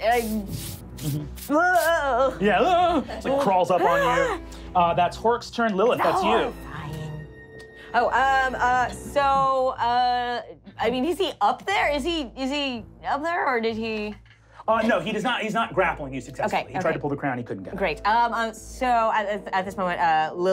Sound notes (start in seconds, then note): 3.3 gasping